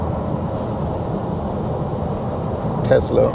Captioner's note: car engine